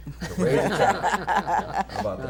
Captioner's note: laughter